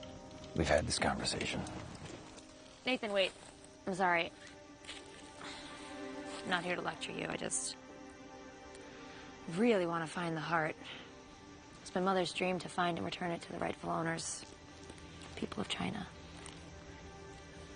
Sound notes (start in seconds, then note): none